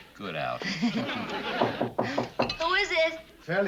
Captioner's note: knocking on door